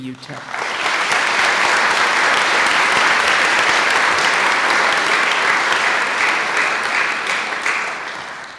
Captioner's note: applause